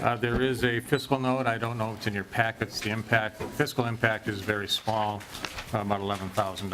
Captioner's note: gavel